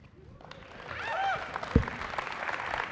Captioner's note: applause